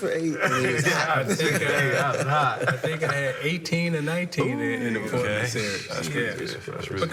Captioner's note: laughter